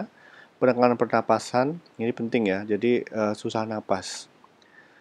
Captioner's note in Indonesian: susah napas